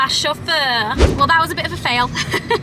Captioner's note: video swooshes; laughs